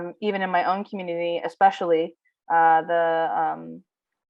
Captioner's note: speaking in foreign language